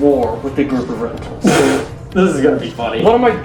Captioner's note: laughs